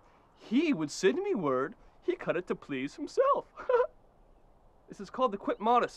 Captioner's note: laughs